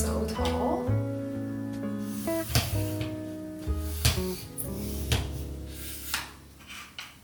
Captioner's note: gentle music; tripod scraping and clicking